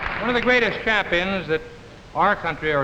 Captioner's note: audience clapping